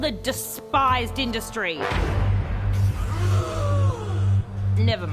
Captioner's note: people gasp